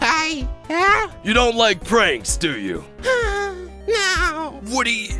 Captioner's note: sigh